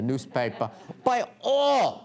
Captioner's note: laughter